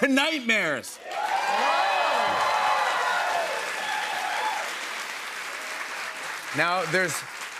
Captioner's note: cheers and applause